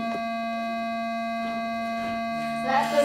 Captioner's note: tone